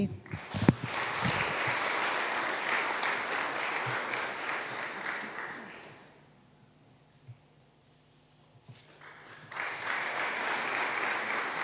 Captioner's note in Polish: oklaski